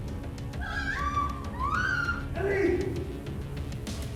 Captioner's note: Ellie screaming